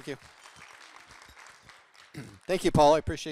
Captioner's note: audience applauding